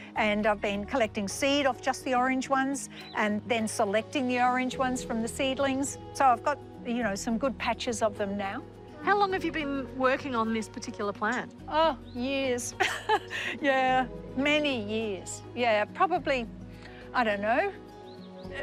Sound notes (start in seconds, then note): 12.8 laughs